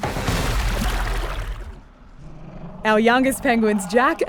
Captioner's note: water runs